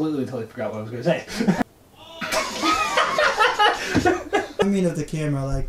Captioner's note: laughter